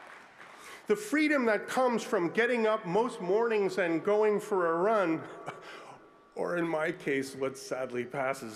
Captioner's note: applause